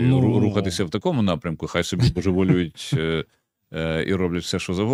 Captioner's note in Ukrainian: прочищення горла